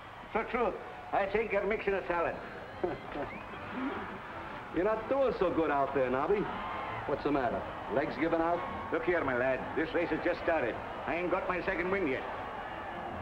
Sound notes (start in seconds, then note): 2.8 Eddie laughs